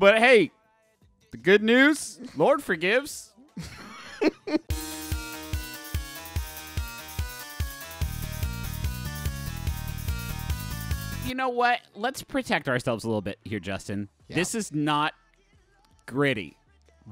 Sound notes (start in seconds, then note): 3.5 laughing; 3.6 upbeat music